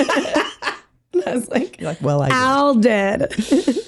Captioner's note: laughing